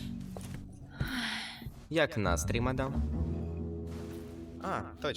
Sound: sighs

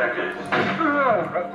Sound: bang

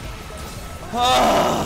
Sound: sighhh

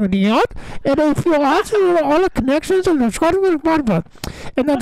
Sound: Charlie mumbling

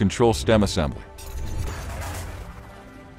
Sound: metal clanking; bright instrumental music continues

